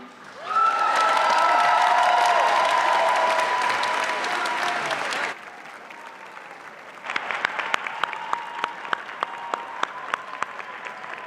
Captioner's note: applause